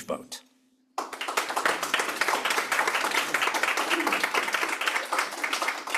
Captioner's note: applause